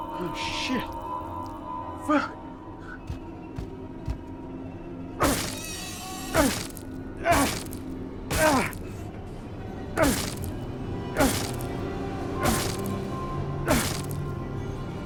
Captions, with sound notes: Oh, shit. Fuck. [squealing] [crunching]